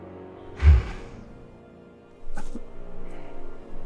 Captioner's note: Bigfoot breathing heavily